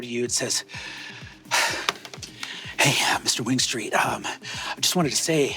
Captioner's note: inhales and exhales deeply